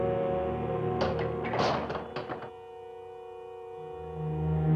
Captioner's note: door clatters